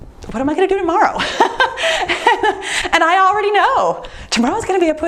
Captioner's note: laughs